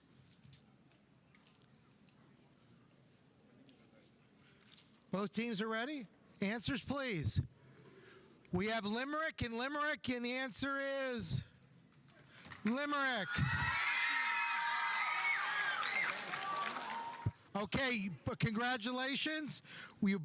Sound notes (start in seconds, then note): 12.4 audience applauding; 12.7 audience cheering